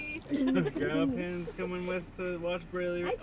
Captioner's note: laughs